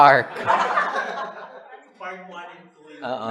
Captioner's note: laughter